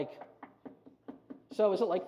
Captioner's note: knocking